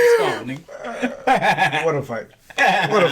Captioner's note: laughs